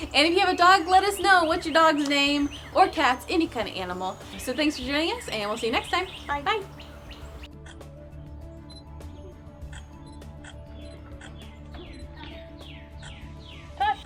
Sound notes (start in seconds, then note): 7.1 camera beeping; 7.1 gentle music; 11.0 birds chirping loudly